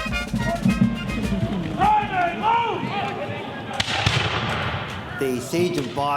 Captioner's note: shouts and gunshots